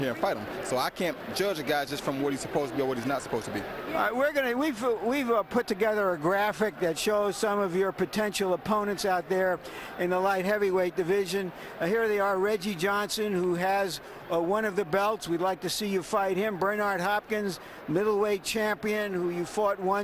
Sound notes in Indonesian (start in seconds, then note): 12.0 Tepuk Tangan